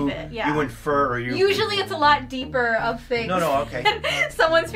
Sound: laughs

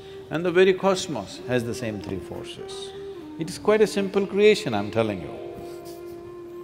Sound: laughs

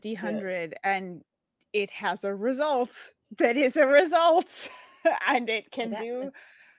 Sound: laughs

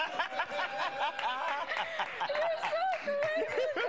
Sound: laughter

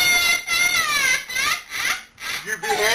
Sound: crying

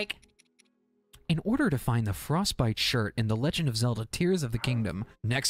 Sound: IGN Guide Voice

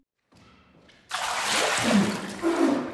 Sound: slosh; soaked Codex coughing and splashing

